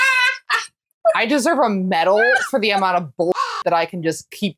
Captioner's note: caw